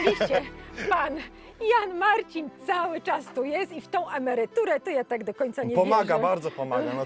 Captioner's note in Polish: śmiech